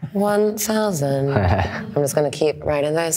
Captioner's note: laughs